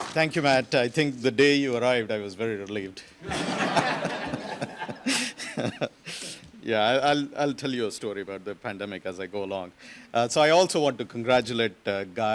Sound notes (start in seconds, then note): 3.2 audience laughs